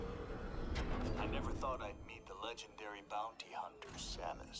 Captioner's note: Reger Tokabi speaking